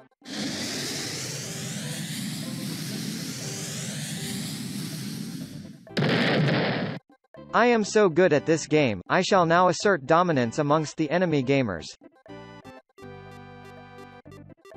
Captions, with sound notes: *rocket missile moving at incredible speed, literally if you blink you will miss it oh my god DELINQUENT LOOK OUT!* *bang* I AM SO GOOD AT THIS GAME! I SHALL NOW ASSERT DOMINANCE AMONGST THE ENEMY GAMERS